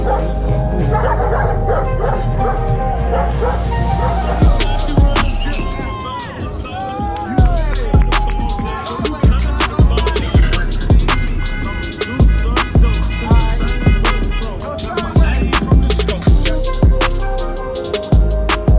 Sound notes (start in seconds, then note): 0.0 dogs barking; 7.3 crowd cheering and shouting; 13.0 cars honking horn